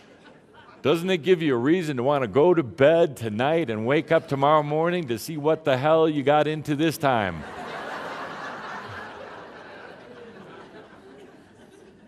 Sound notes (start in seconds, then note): 7.4 much laughter